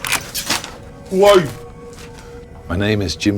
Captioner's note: gun clicks